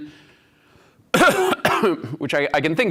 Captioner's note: coughs